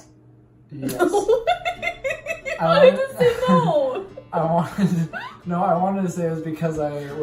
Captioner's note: laughs